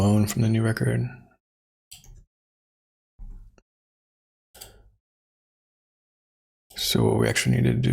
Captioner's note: blank Audio